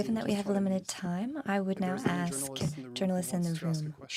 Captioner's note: speaking french